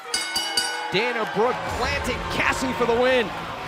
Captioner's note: bell ringing